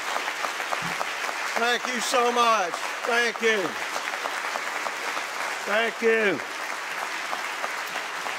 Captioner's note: continued applause